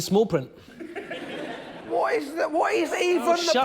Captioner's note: laughter